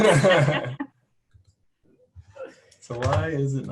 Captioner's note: laughing